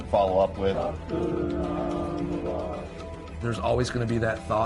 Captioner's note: crowds chanting